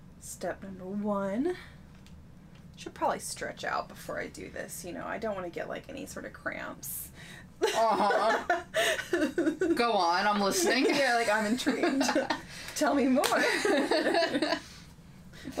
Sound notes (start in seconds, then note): 7.6 laughing; 13.3 both laughing